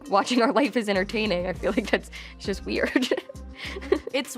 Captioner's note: laughs